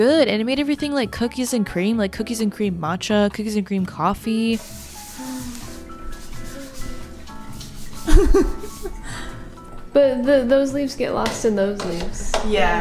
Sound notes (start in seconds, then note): 8.0 laughs